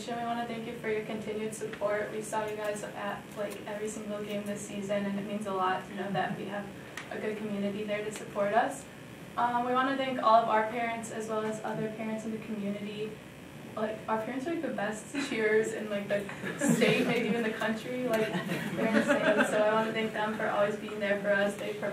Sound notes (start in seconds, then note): 18.2 audience chuckling